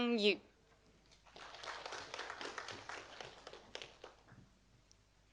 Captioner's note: audience applauding